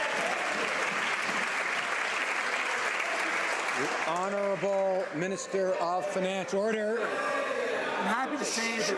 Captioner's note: some Applause